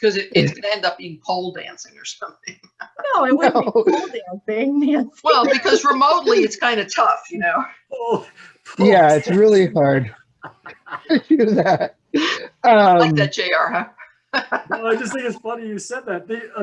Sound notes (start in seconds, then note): 2.3 laughs; 14.3 laughs